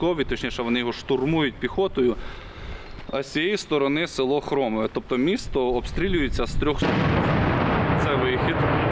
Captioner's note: loud explosion heard nearby